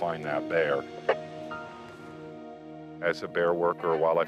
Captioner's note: static buzzing